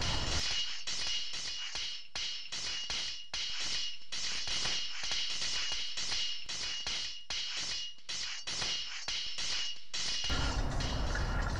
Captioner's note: swordfight clangs